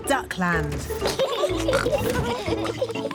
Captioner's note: both giggling